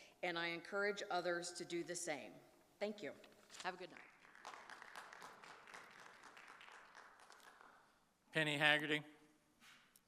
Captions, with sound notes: and I encourage others to do the same. Thank you. Have a good night. (audience applauding) - Penny Haggerty.